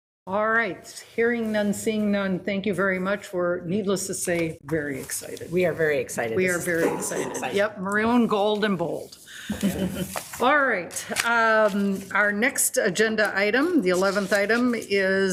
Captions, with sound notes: All right, hearing none, seeing none, thank you very much. We're, needless to say, very excited. - We are very excited. - We are very excited. Yep. Maroon, Gold & Bold. (laughs) All right, our next agenda item, The 11th item, is